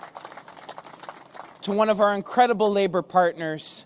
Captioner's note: applause